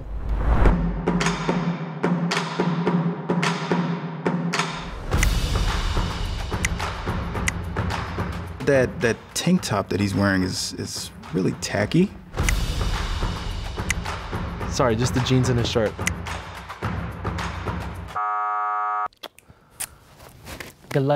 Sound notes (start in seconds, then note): 0.8 upbeat drum music; 5.4 screen clicking; 18.1 buzzer beeps